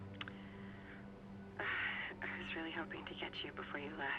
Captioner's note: sighs